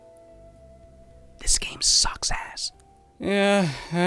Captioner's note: whispering